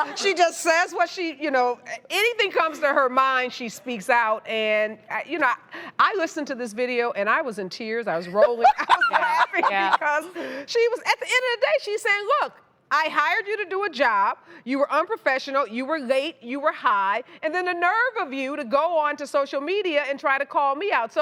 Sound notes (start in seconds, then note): 8.5 loudly laughing